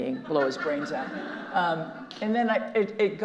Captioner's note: audience laughing